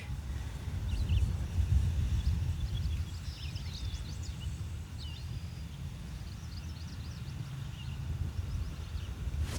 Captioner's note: birds chirping